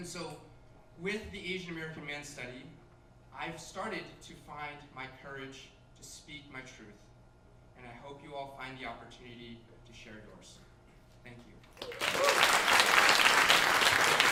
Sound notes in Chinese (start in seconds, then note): 11.7 掌聲